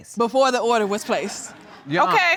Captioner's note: audience laughs